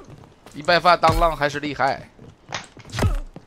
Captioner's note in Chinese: 歇斯底里